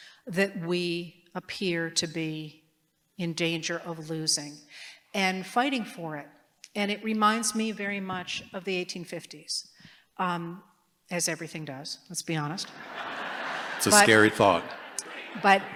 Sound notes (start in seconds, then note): 12.6 laughter